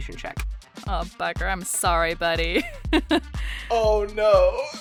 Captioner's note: chuckles